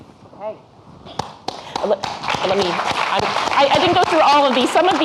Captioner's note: audience clapping